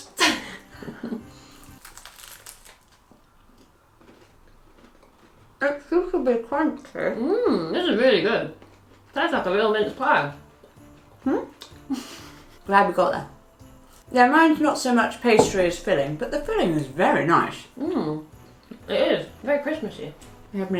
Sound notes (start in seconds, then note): 0.1 laughing; 1.6 crunching; 3.6 chewing; 11.7 laughing